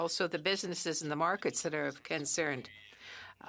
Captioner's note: speaking French